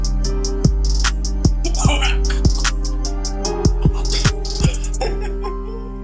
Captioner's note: dramatic coughing; laughing